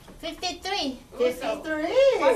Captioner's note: voiceover